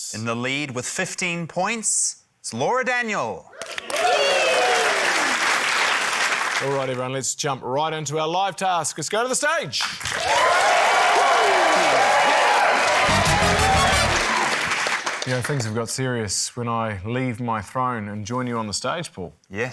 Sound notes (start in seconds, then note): 3.6 cheering, applause; 10.0 cheering, applause